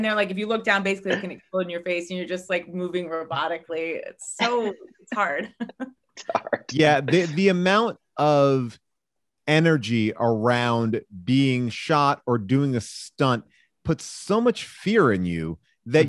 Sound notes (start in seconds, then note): 6.2 laughs